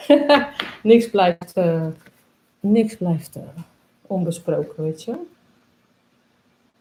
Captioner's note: laughs